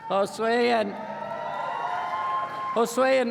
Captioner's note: applause